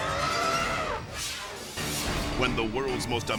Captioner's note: elephant trumpeting; air whooshes